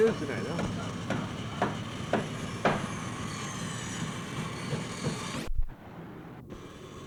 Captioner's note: hammering